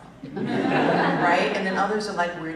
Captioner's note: laughter